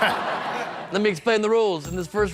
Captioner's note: laughs